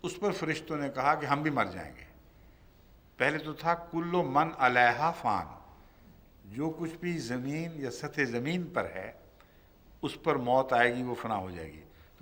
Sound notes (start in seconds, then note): 0.0 Arabic; 4.2 Arabic